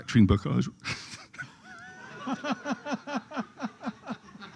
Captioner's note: laughter